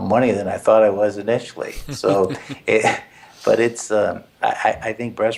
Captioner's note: laugh